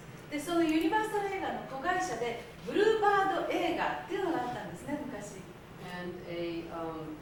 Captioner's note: speaking Japanes